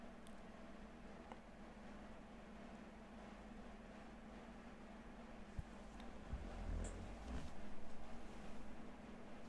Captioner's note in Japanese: 冷房が作動中